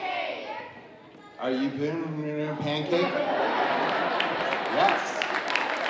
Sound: slurring words; audience laughing; audience applauding

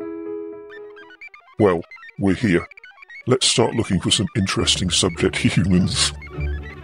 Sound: laughs

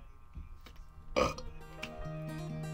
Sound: belch

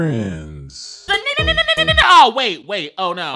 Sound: ululating

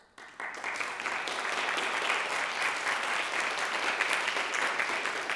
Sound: audience applauding

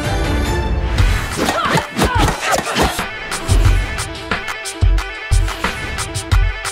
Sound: defiant music continues; lively music; women grunting

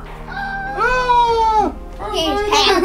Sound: all pretending to scream

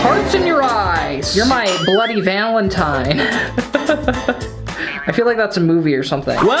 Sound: laughs

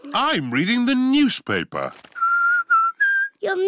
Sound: whistles

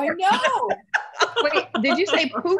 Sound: laughter

